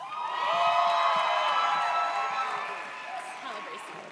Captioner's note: audience cheers